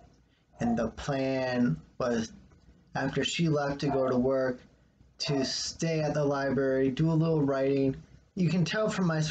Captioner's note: dog barking in the background